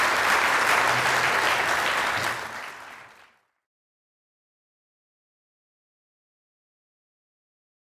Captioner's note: applause